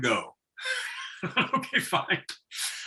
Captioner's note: laughing